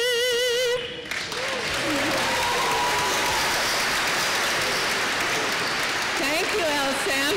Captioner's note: applause